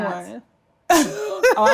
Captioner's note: Treasure laughs